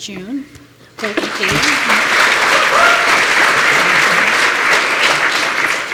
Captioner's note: applause